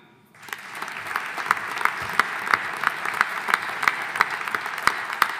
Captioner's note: audience applauding